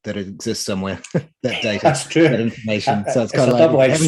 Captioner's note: chuckling